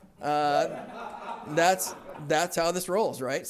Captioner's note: laughter